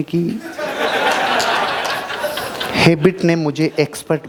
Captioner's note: laughing